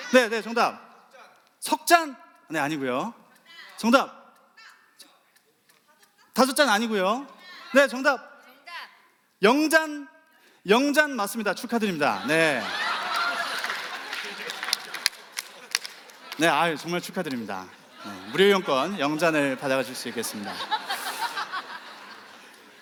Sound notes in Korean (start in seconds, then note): 13.6 웃음